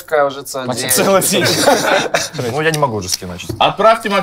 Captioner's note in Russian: Смех